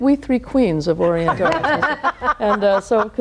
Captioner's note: laughing